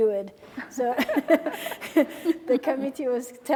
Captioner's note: laughing